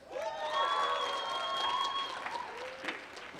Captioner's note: applause